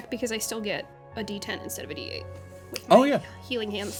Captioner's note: none